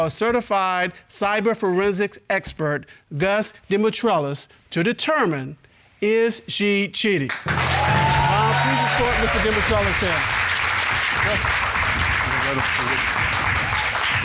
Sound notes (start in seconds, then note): 7.4 audience applauds; 10.5 audience applauding